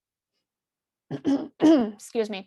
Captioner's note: clears throat